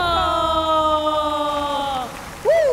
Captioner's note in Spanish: Aplausos